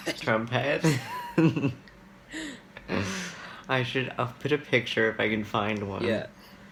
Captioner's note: laughs